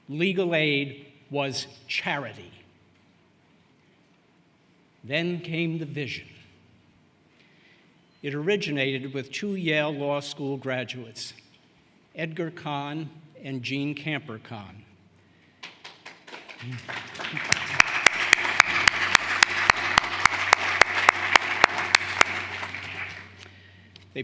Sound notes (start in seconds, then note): 19.8 applause